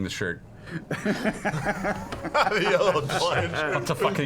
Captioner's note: laughter